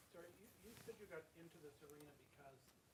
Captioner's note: voiceover